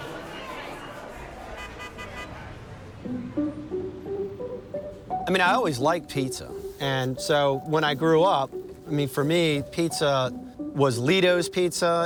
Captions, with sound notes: (car honks) - I mean, I always liked pizza. And so when I grew up for me pizza was Ledo's Pizza